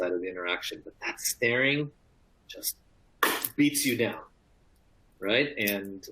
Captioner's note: clap